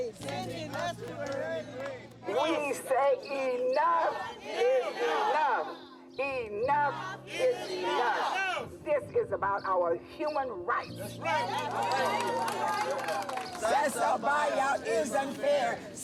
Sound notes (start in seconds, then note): 11.2 protestors cheering